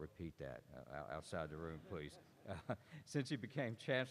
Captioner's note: laughter